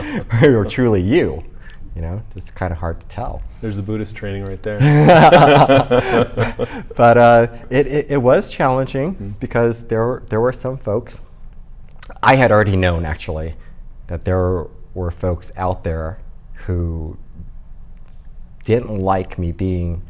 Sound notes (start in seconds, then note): 4.8 laughing